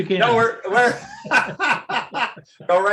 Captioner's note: laughter